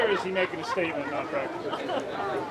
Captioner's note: murmurs